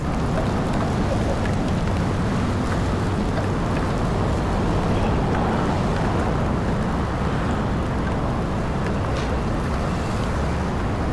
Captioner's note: sound of rain